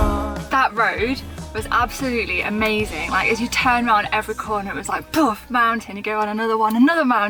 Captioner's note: boof!